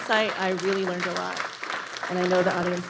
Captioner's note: audience applauding